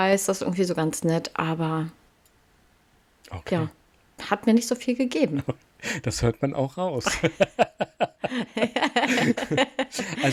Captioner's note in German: gelächter